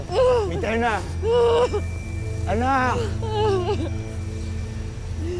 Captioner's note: mitena wailing